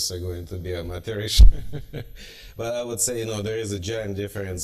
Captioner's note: laughter